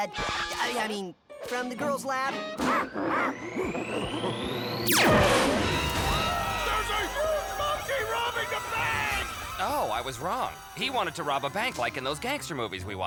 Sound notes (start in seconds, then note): 2.0 clyde screeches; 4.8 ray whooshes; 5.0 people scream